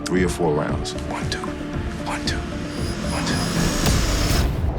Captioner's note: whispering